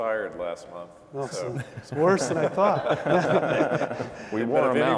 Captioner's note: laughing